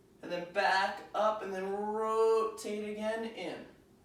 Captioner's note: none